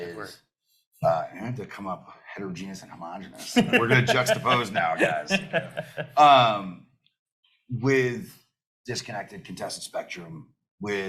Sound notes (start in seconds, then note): 3.4 panelists laugh